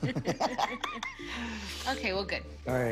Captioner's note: both laugh